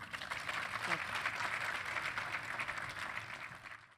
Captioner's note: applause